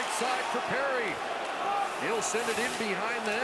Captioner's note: cheering